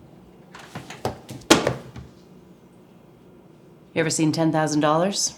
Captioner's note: money thuds